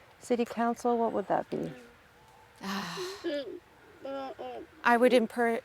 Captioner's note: sighs